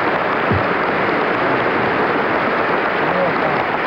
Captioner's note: applause continues